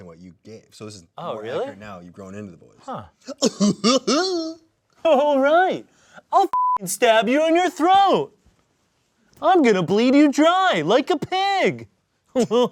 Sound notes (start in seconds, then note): 3.2 laughs; 6.5 beep